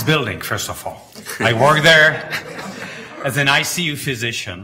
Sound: everyone chuckling

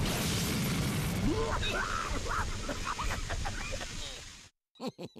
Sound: coughing; chuckling

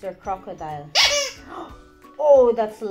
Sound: squeaking

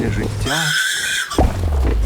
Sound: imitates baby crying

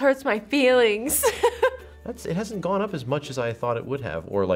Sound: laughs

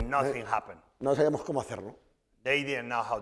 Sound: speaking spanish

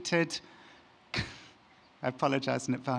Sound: chuckles

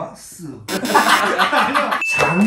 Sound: sound effect

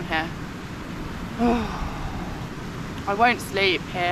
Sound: sigh

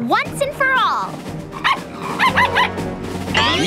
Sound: barking

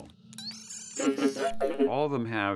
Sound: laughing

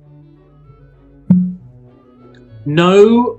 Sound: pop

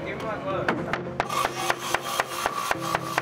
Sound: hammering; saw cutting

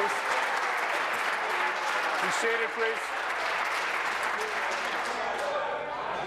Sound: applause

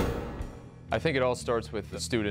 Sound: voiceover

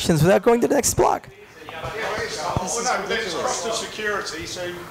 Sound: audience speaking

